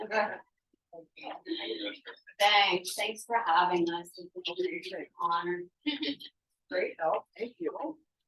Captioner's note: laughing